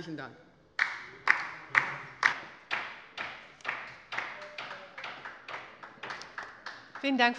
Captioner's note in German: Beifall bei der LINKEN